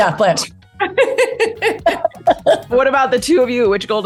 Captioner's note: laughter